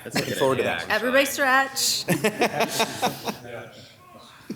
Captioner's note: laughter